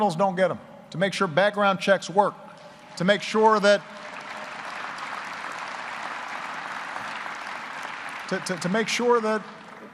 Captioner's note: applause